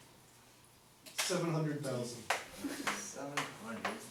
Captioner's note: voiceover